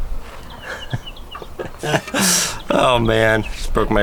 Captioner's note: laughs